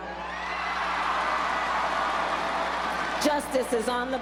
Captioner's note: crowd cheers